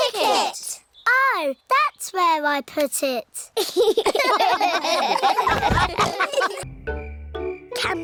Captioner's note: all laugh